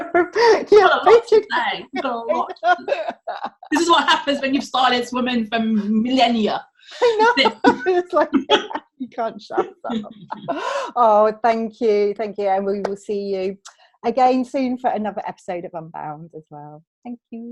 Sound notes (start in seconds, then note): 7.0 laughs